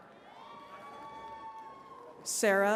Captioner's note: attendees cheering